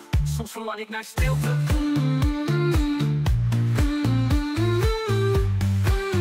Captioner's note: mmm, mmm